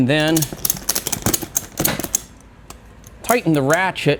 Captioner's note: ratchet rattling